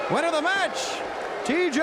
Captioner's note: crowd cheering